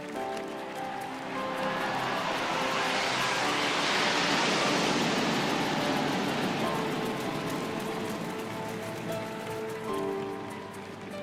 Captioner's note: applause